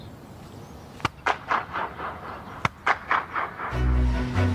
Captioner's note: claps hands – Multiple echo resonates